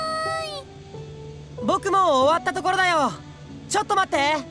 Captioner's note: shout